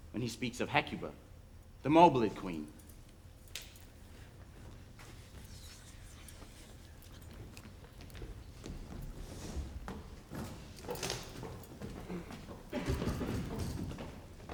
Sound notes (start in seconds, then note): 5.6 players whisper